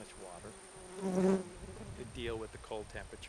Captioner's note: insect buzzes loudly